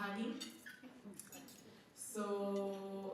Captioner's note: soft laughter from the crowd